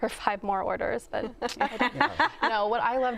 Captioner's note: laughter